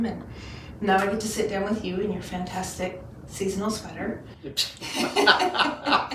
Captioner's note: laughing